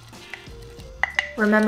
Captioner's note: wood tool tapping